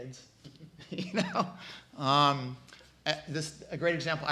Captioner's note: laughs